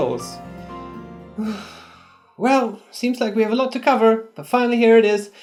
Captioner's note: breathes out